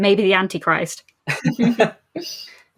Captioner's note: laughing